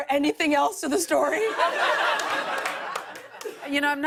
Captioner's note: laughter